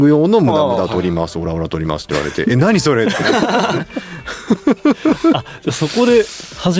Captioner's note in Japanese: 笑い